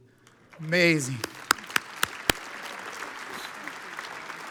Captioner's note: audience applauds